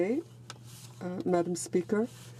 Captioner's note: speaking french